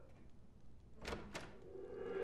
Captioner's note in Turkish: Kapı açılma sesi